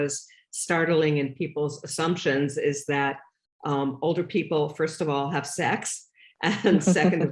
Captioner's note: laughter